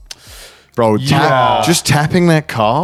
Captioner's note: sighs